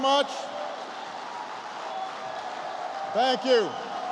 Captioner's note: applause